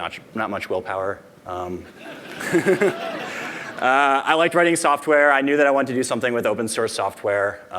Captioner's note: laughter